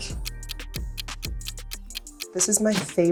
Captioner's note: ticking